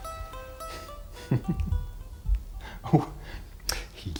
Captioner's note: chuckles